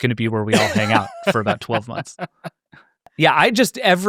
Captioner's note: laughing